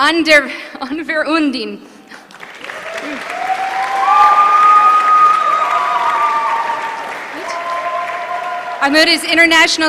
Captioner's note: applause